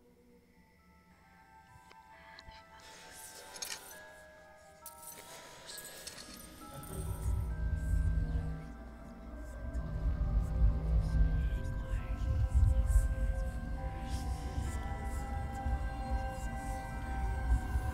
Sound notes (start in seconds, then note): 6.1 eerie whispering; 6.1 soft dramatic music